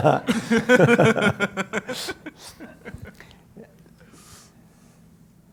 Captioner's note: laugh